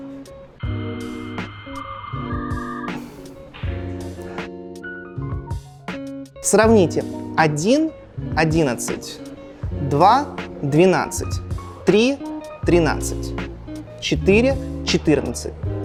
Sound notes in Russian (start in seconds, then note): 0.6 звук загрузки